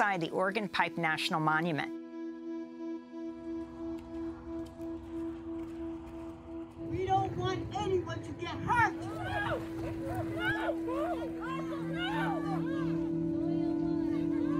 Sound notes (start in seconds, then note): 3.2 somber music; 3.2 wind swooshing; 8.6 protester wailing